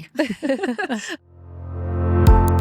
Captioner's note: both laughing; upbeat music